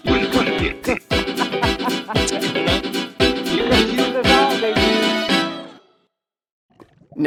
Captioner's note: ha ha ha; laughs